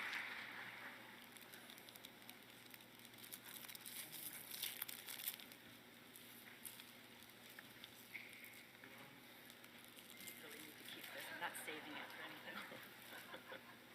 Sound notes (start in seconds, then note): 3.2 plastic rustling noise; 11.1 laughter